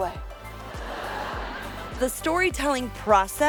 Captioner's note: audience laughing